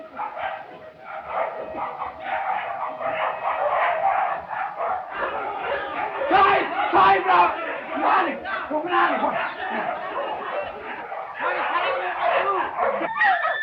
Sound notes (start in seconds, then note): 2.5 dogs barking; 8.2 shouting